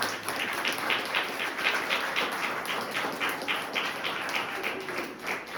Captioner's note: audience continues applauding